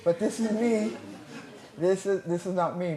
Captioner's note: laughter